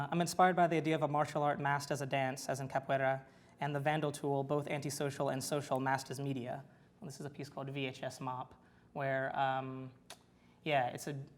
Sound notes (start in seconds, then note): 2.1 foreign language